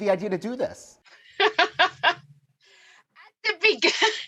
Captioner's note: laughing